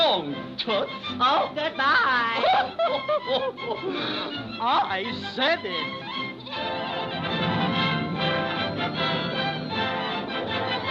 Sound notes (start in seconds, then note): 2.4 giggling